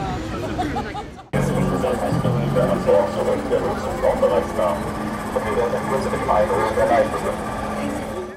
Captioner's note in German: Lautsprecherdurchsage der AIDA